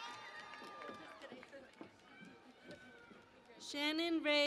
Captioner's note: cheering and Applause